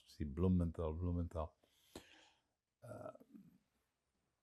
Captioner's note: none